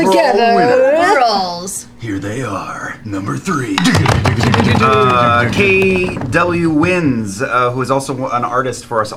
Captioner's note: dramatic voice